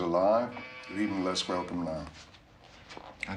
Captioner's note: Bel pintu berbunyi